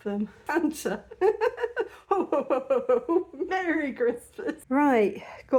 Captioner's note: chuckling